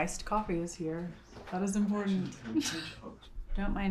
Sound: chuckles

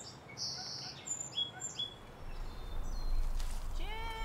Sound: birds chirping

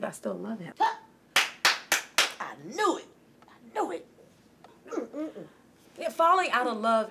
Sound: clapping

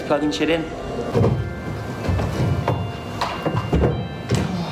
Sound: various thumping and banging on the stage off camera

